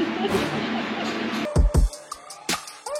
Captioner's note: laughing; gentle electronic music